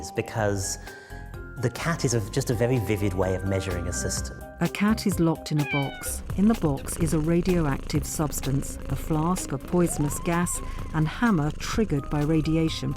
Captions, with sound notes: because the cat is just a very vivid way of measuring a system. (cat meows) A cat is locked in a box. (cat purrs) In the box is a radioactive substance, a flask of poisonous gas, and hammer triggered by radiation